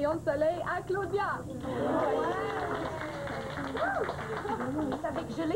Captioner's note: Applaudissements